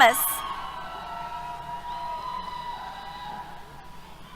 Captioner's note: cheers